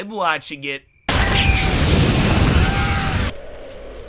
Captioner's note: sounds of forest fire and frightened animals